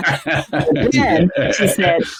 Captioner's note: laughs